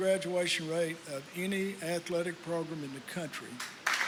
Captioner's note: applause